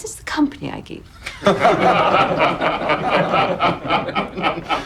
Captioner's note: laughing